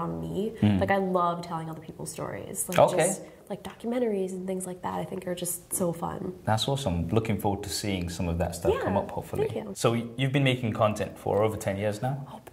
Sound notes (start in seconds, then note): none